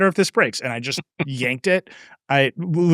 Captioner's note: laughing